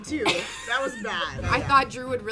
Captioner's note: laughs